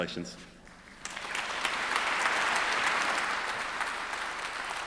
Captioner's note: audience applauds